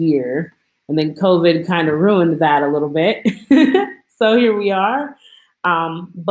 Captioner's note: laughs